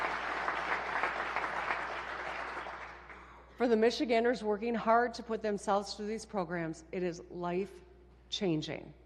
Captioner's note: applause